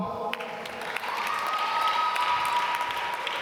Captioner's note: applause